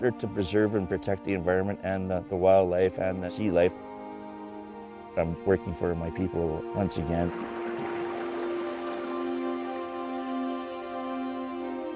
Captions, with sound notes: We're out there to preserve and protect the environment and the wildlife and the sea life. I'm working for my people once again. (waves crashing)